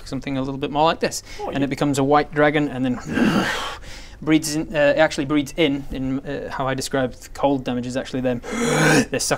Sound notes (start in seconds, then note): 3.0 hrrrrrrrrg; 8.4 hrrrrrrrgggh